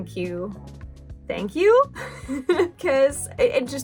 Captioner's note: laugh